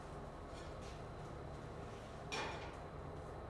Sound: clank

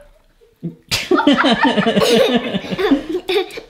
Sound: laughing

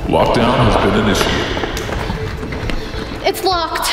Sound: voiceover

